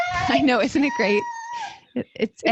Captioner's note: squeals